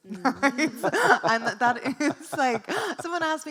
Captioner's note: laughs; chuckles; laughs